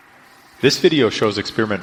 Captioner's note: voiceover